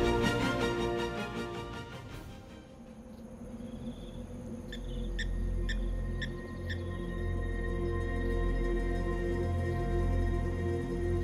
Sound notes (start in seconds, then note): 2.8 insects trill; 3.4 bird chirps; 8.5 ethereal music playing